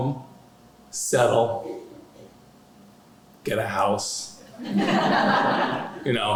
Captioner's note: laughter